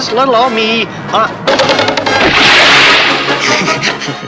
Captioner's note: crash! & splash!; laughs!